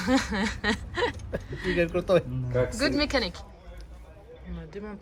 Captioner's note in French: rires